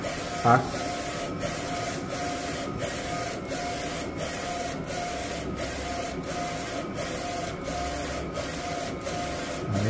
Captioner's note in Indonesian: suara mesin printer